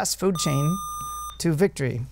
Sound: buzzer

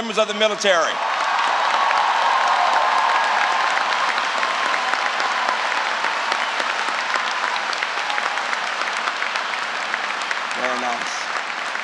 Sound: applause

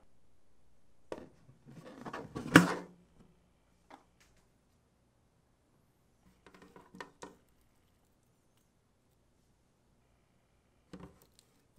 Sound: folding

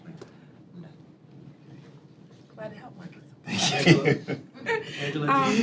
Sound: laughter

